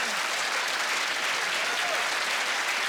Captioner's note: applause